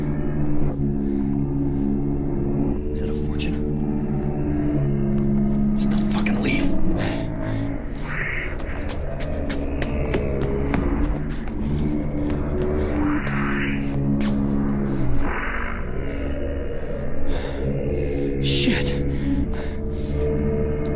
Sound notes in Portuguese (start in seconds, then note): 8.5 Skittering; 18.4 exasperado; 19.1 Ofegante